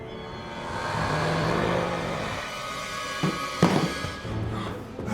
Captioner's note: growls; eerie orchestral music